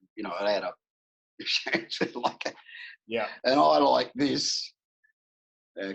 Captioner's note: laughs